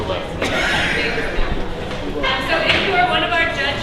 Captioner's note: laughter